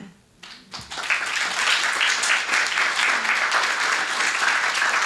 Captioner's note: audience applauding